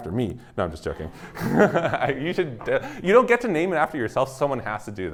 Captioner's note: laughs